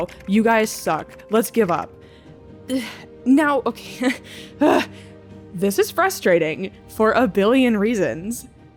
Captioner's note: groan